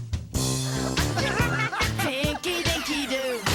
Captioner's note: all laugh